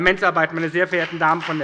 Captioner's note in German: Beifall bei der SPD und der FDP